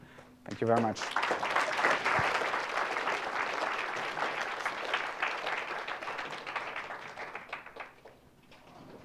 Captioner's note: applause